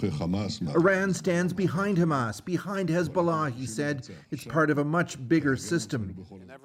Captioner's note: speaking alternate language